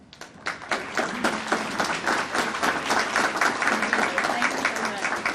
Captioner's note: audience applauding